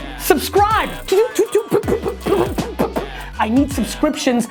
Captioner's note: rapid "toot" noises